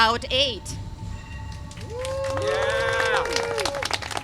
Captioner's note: applause and cheering